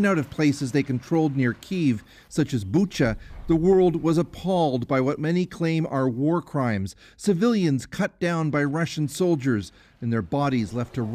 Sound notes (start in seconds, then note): 0.7 speaking Foreign Language